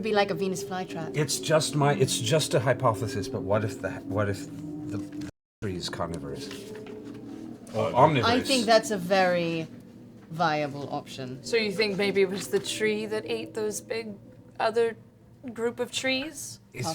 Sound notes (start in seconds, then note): none